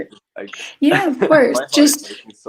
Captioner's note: laughs